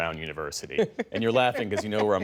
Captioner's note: laughter